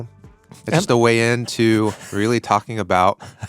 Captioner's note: laughing